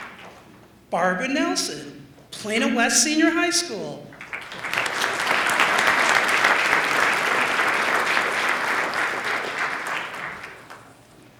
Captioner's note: applause